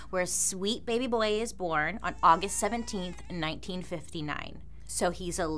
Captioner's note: baby cries